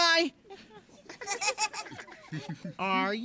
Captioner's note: all chuckling